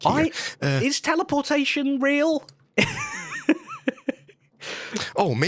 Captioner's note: laughs